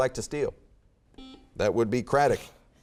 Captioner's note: beeping